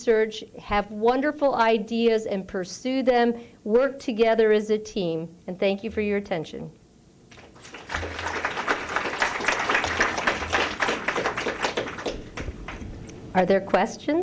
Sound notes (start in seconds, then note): 3.3 applause